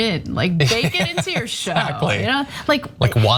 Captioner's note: laugh